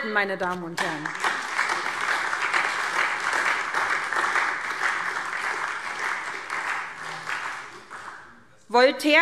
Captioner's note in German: Beifall SPD